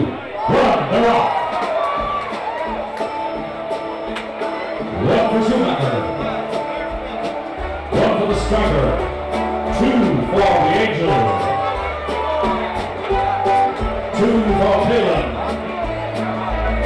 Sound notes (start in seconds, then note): 3.6 guitar music; 3.6 loud cheering